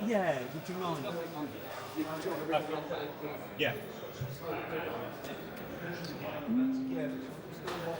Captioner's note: people Chattering